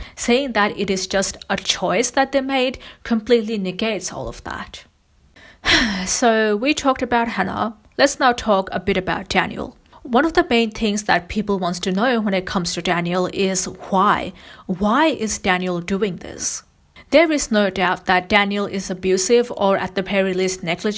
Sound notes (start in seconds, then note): 5.6 sighs